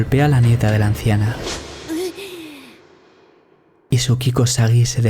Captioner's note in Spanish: golpe